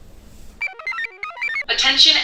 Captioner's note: computer chirps